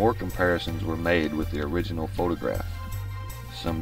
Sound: none

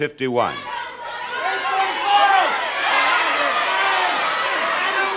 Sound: audience yelling

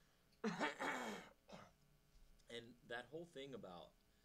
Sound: clearing throat

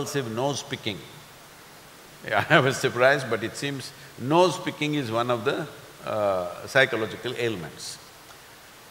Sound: laughs

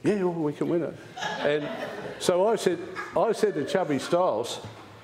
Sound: laughter

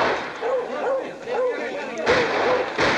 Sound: gun fires; everyone talking; dogs barking; gun firing

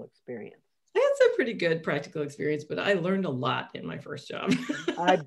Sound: laughs

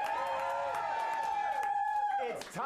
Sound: audience cheering

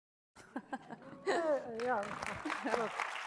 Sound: audience applauds

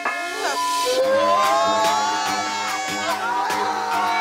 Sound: bell ringing; group yelling

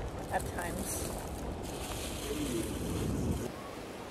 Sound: plastic bag crinkling; ocean waves crashing

